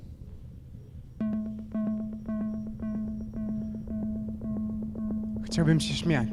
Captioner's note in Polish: Wysokie, krótkie, miarowe, elektroniczne stuknięcia